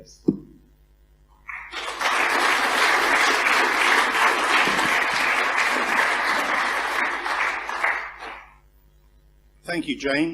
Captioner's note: applause